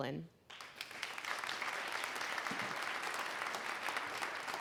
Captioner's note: applause